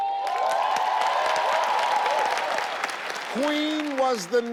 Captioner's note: audience applauding